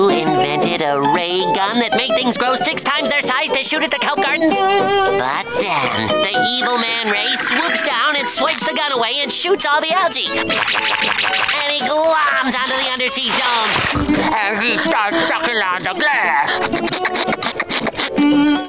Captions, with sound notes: So you invented a ray gun that made things grow six times their size to shoot at the kelp gardens? But then, the evil Man Ray swoops down and swipes the gun away and shoots all the algae! And he globs onto the undersea dome! And he starts sucking on the glass! [sucking sounds]